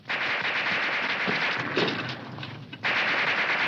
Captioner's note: guns firing